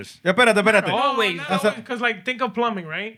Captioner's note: speaking Spanish